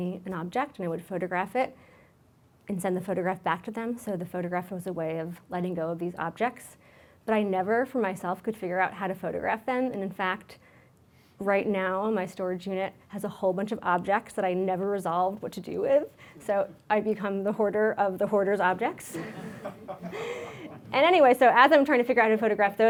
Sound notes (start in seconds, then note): 19.1 audience laughs